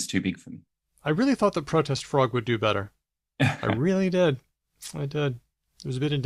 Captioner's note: chuckles